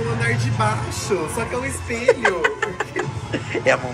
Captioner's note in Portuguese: risos